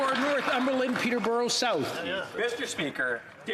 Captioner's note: some Applause